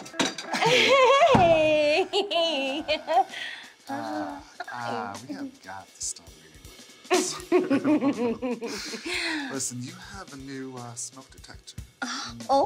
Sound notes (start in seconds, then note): 1.8 Maha laughing; 7.1 Maha giggling